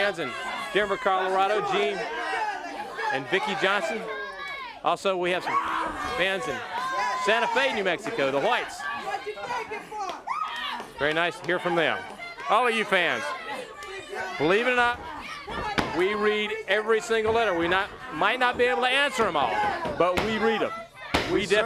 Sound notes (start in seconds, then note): 9.8 crowd chatter; 21.4 crowd chatter